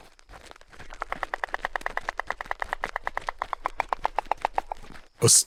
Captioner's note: stork bill-clattering